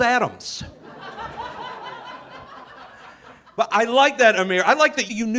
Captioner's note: audience laughing